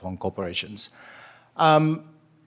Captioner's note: breath